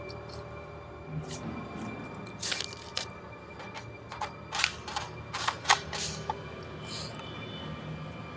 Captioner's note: sounds of gun being loaded